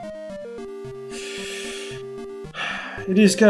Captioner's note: sighs